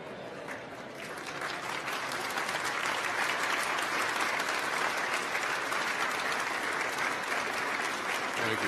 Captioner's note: applause